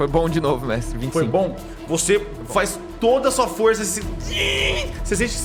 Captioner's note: hng